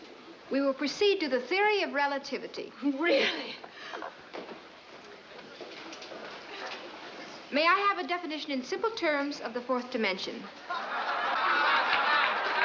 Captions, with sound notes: we will proceed to the theory of relativity. ! May I have a definition in simple terms of the fourth dimension? [laughing]